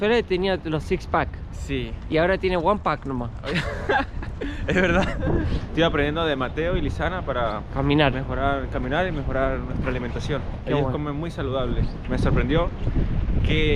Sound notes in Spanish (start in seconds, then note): 3.4 Risas